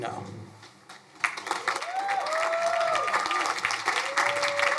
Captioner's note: crowd applauding